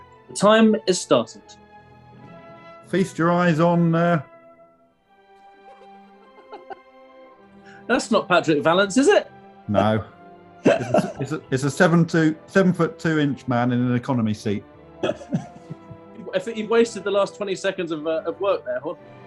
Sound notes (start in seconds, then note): 10.6 laughing; 15.0 chuckling